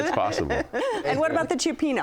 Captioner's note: laughing